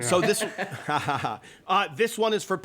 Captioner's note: laughter